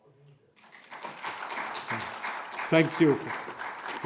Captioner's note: audience clapping